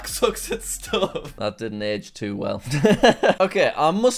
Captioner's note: laughs